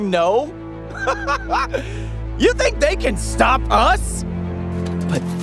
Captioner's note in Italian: risata